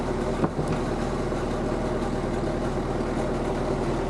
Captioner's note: slab thudding